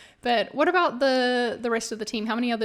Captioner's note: none